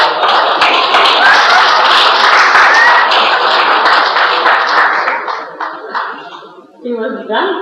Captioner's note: all laugh